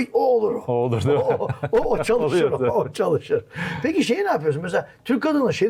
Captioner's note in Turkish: kahkaha